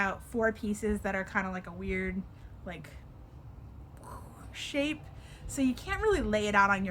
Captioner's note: vocalizes